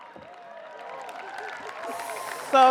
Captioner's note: audience laughs; audience cheers, applauds